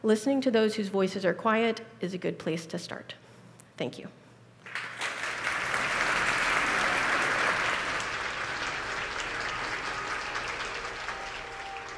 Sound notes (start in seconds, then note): 4.8 applause; 8.0 calm music